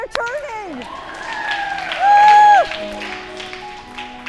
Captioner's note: applause